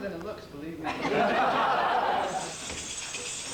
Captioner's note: laughter